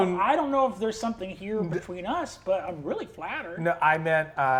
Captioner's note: none